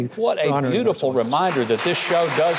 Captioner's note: audience claps